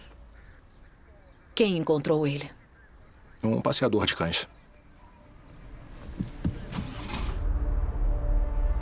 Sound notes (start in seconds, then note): 6.6 engine starts